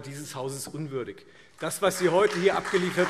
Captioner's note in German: Beifall Freie Demokraten, CDU, BÜNDNIS 90/DIE GRÜNEN, SPD und DIE LINKE